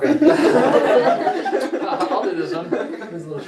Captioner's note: laughing